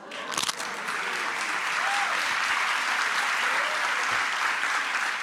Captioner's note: audience applauding